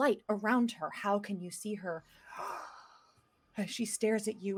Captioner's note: inhales loudly